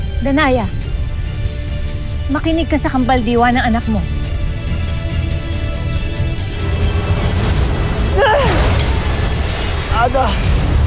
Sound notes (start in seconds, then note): 6.0 sparkling whoosh; 6.7 powerful whoosh-crackle; 8.1 grunts; 8.2 powerful blast-crackle